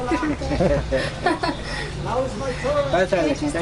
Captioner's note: laughter